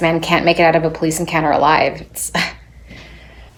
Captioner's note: scoffs